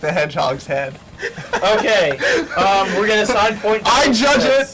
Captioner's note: chuckles